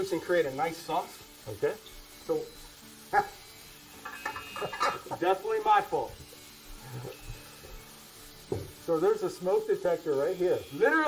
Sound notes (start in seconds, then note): 3.1 laughing; 6.7 smoke detector beeping